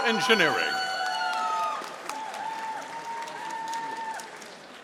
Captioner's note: audience applauding